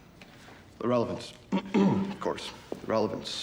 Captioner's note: clears throat